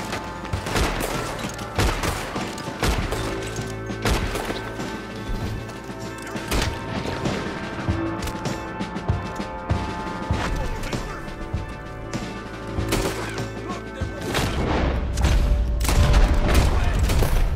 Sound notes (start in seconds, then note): none